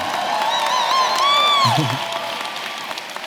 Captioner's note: applause